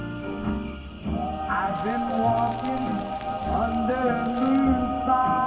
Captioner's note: needle on record